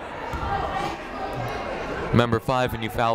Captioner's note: people shouting in the crowd